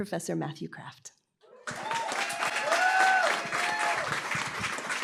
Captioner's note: applause, cheering